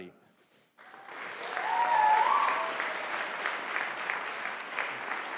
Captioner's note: audience applauding